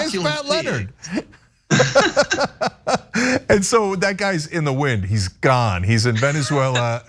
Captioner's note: laugh